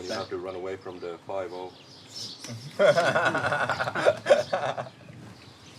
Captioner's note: everyone laughs